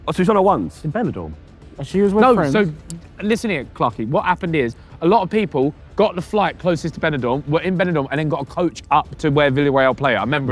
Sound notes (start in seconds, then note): none